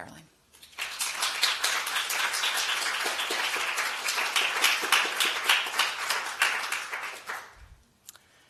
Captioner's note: applause